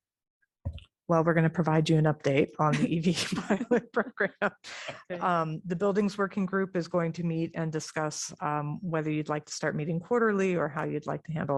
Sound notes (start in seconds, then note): 3.1 laughter